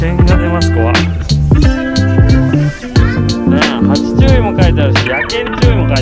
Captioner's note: laughs